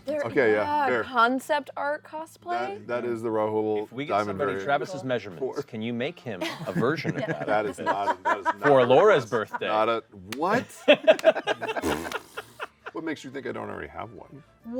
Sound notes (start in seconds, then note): 10.6 laughter; 11.4 sputters